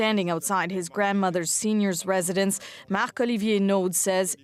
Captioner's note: speaking French